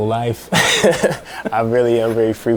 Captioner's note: laughing